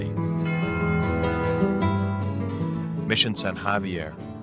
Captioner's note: church bell dings